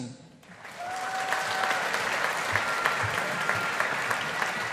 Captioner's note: audience applauding